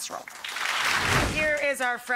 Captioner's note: applause; whooshing